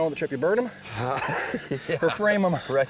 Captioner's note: laughs